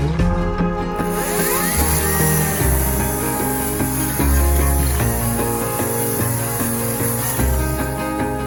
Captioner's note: electric chainsaw sound